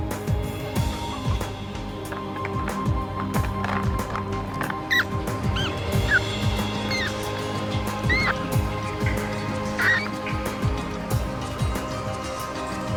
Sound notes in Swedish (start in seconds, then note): 4.8 råtta gnisslar; 9.8 vatten som droppar